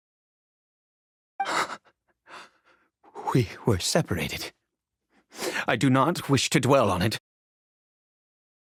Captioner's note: sigh